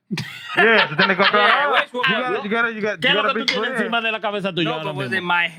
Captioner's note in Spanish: Riendo; Hablando en idioma extranjero